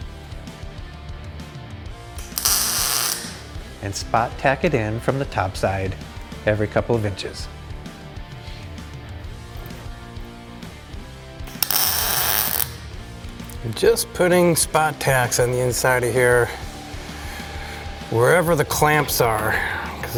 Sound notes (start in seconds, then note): 2.2 tool whirring; 11.6 tool whirring; 11.7 intense rock music